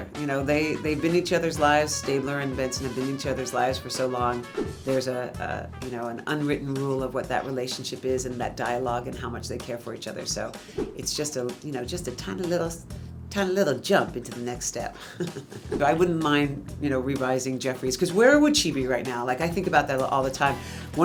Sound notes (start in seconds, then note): 4.5 air whooshing; 10.5 air whooshing; 14.9 laughs; 15.9 air whooshing